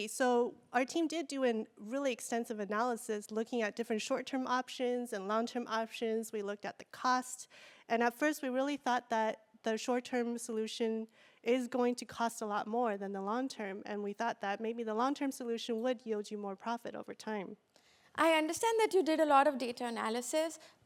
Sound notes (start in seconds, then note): none